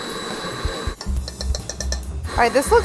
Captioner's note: tapping